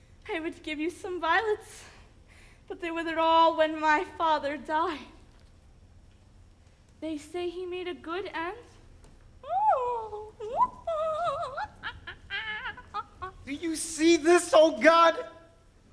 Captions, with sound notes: I would give you some violets, but they withered all when my father died. They say he made a good end. (hums) - Do you see this, O God?